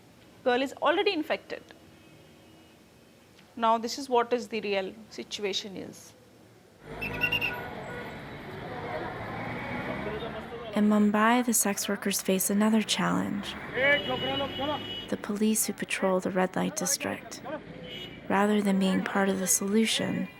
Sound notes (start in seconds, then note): 7.0 whistle blowing; 13.5 calling